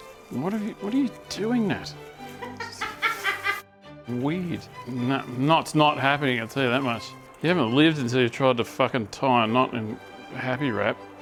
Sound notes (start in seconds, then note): 2.4 laughing